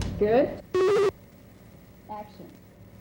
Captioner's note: buzzing/beeping